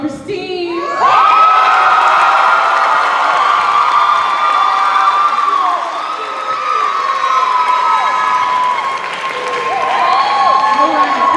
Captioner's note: cheers and applause